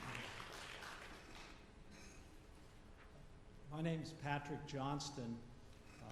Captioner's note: applause